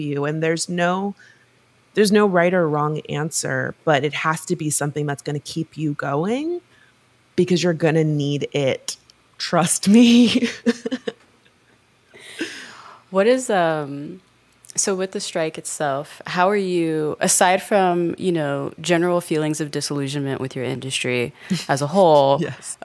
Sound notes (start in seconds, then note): 10.4 chuckles